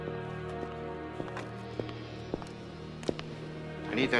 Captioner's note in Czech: Blížící se kroky